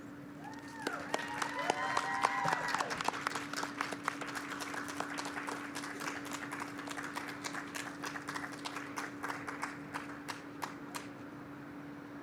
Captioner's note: applause